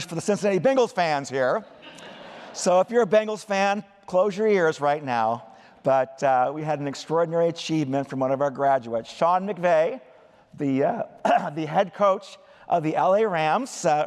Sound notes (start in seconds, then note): 1.5 laughter